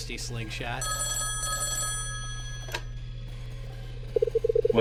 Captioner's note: phone ringing